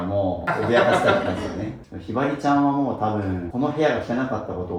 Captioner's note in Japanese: 笑い